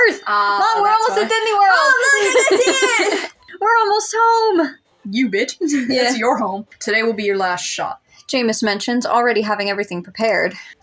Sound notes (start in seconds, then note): 0.3 laugh; 5.7 chuckle